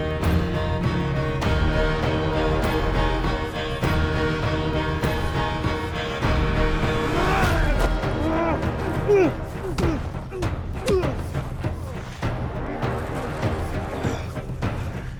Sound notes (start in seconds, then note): 7.0 both moaning; 12.2 dramatic music